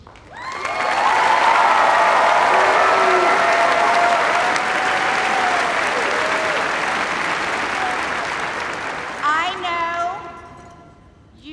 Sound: cheers and applause

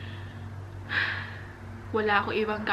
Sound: sighs

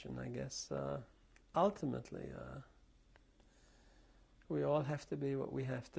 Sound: pauses for 3 seconds

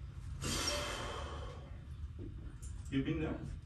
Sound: sighs

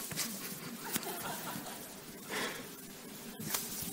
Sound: laughter

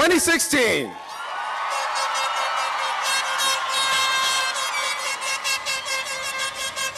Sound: cheering; horns blaring

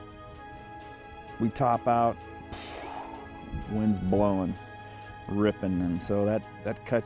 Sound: exhales sharply

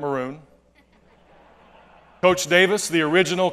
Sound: laughter

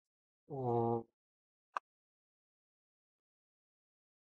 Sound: pause

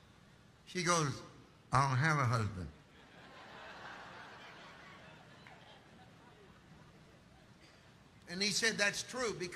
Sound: congregation laughing

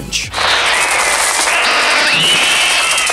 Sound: screaming and birds chirping

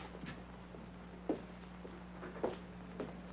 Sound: footsteps banging

